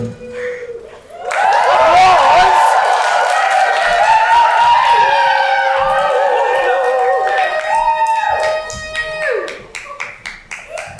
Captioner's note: audience cheers